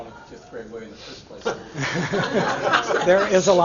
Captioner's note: laughter